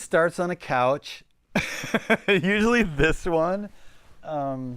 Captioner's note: laughing